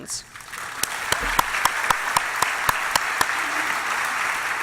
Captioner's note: applause